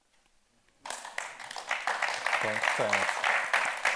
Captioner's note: audience applauding